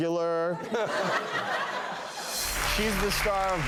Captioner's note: laughter